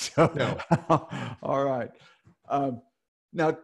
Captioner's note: laughing